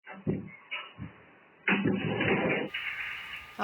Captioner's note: sound of door opening